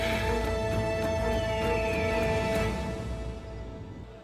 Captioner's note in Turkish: Müzik - Gerilim; Kartal ötme sesi